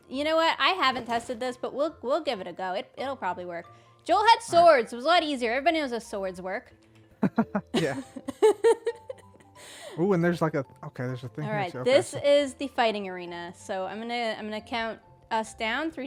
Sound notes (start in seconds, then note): 7.2 laughs